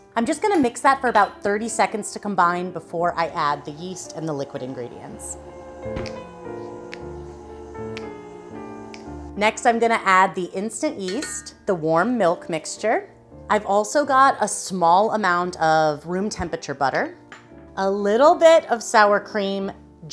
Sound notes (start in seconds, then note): 4.5 classical music; 5.2 snaps